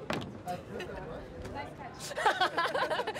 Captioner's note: laughter